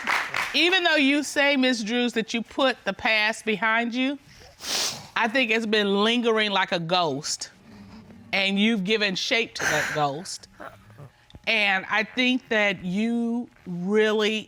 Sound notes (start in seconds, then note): 9.6 sobs